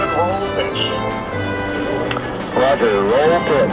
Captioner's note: microphone sounds